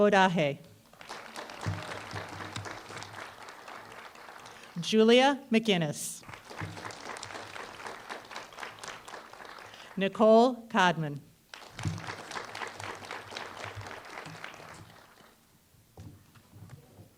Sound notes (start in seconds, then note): 0.8 applause; 6.2 applause; 11.4 applause